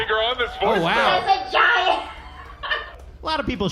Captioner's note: audience laughing